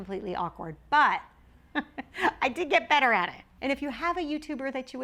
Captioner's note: laughs